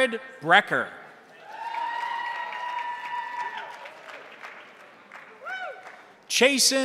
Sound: crowd cheering; crowd applauding

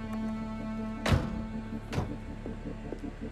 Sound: doors close

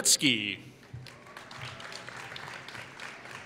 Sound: applause

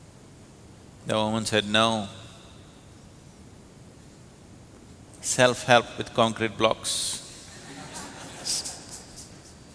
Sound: laughter

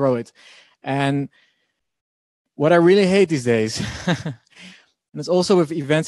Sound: laughing

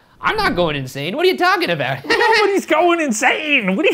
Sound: laughs; nervous laugh

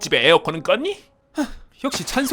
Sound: sigh

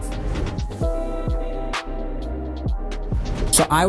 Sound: gentle music; whoosh sound

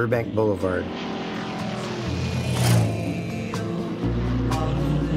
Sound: engine humming

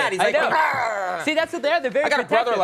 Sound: Conan O'Brien growling

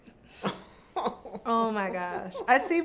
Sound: both laugh

